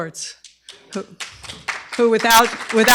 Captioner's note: applause